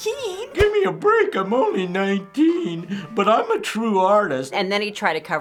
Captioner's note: whining